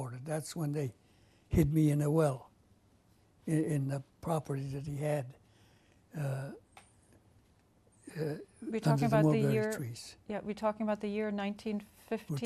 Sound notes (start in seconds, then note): 5.4 pauses for 3 seconds